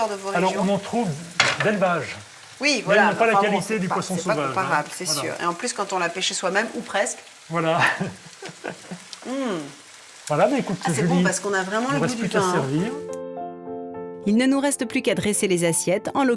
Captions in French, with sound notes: de vos régions. Alors on en trouve d'élevage. Oui. Voilà. Pas la qualité du poisson comparable c'est sûr. Et en plus quand on l'a pêché soi-même ou presque. Voilà. [rires] Hm. Voilà. Écoute servir. C'est bon parce qu'on a vraiment le goû servir. Il ne nous reste plus qu'à dresser les assiettes en